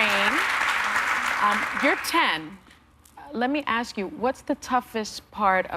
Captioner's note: applause